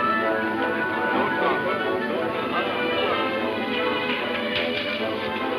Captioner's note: riders chattering